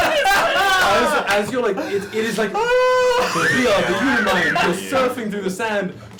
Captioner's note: shouting, laughter